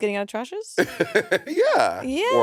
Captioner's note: Monét laughing